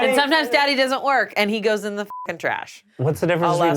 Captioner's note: beep